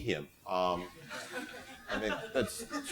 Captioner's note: laughter